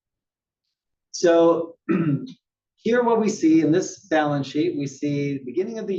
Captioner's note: cough